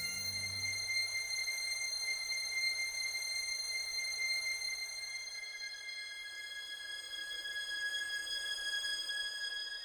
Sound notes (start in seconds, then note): 0.0 high pitched tones